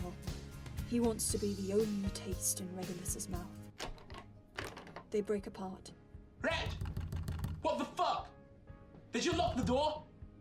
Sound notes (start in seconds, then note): 3.8 doorknob shakes; 6.6 pounding on door; 9.3 pounding on the door continues